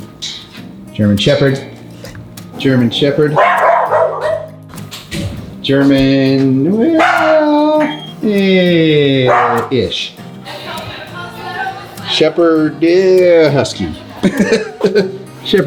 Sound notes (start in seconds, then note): 3.3 dog barking; 14.0 laughing